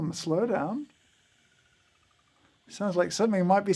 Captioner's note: burrs whirring